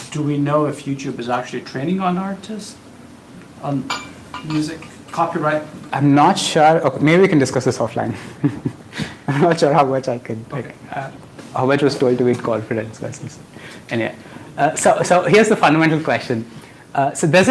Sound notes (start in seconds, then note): 8.2 laughs